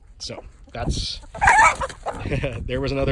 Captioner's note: chickens squak